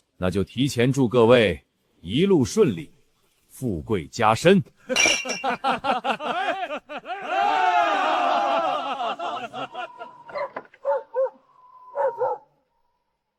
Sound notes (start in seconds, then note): 4.8 laughter